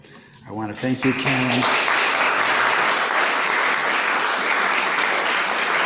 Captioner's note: clapping